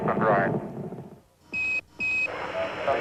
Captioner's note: beeping